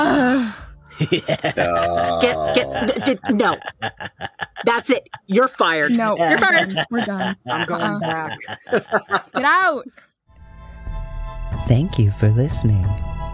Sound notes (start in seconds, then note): 0.0 exclamations of dismay and groans as laughs; 5.2 laughs